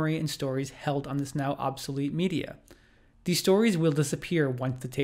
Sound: none

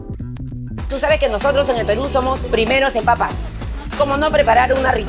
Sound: speaks in a foreign language

